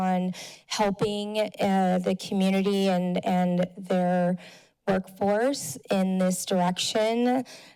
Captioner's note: none